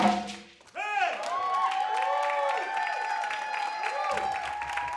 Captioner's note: people cheering; audience claps